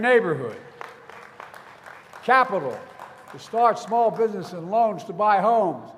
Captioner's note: applause